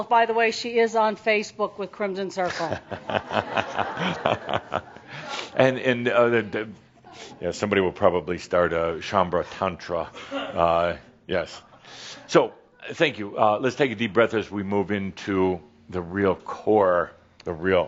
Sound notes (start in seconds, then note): 2.5 some chuckles; 5.2 chuckling